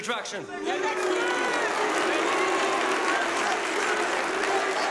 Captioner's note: members shouting and booing; members applauding